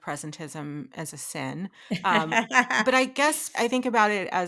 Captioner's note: laughing